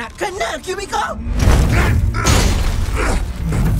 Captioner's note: angry grunt; Kubiko grunts